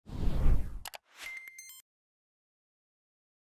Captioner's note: air whooshing